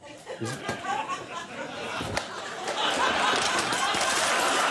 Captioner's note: crowd laughs